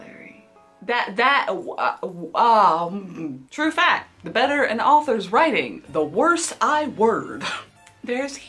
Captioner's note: stutters